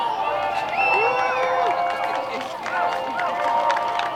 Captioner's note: loud cheers